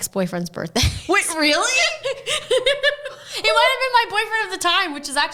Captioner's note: both laugh